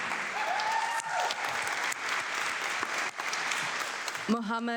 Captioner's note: audience clapping